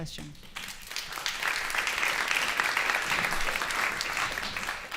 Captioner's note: applause